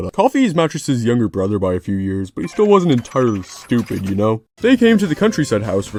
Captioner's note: brain thinking sounds